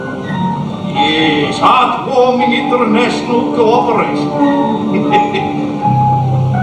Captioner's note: laughs